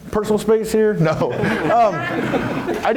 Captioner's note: laughs